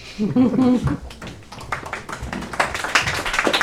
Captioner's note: laughter; applause